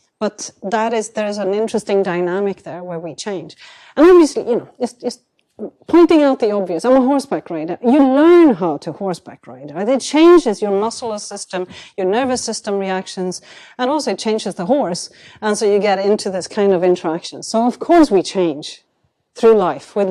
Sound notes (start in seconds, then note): none